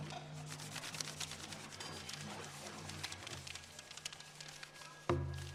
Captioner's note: paper rubbing together